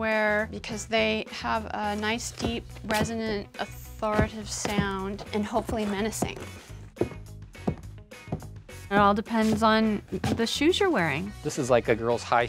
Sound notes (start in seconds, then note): 6.5 footsteps